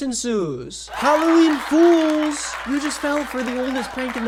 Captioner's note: audience cheering